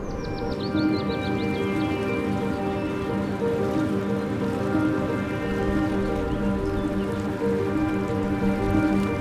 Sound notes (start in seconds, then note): 0.1 gentle music; 0.9 birds chirping